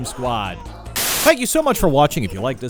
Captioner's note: TV static